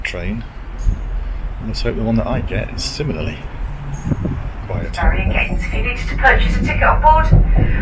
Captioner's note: train announcer